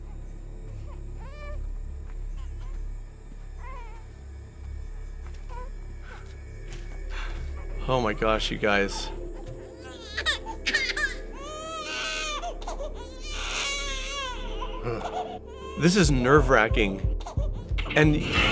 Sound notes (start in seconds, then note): 9.7 baby starts crying